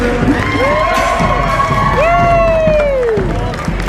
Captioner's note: crowd Wooos